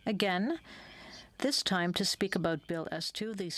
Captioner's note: speaking french